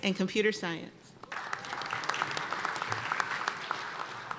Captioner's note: applause